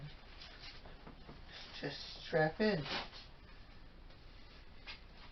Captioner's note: rip of Velcro